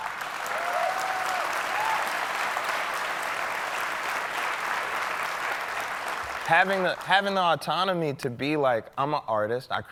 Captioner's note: applause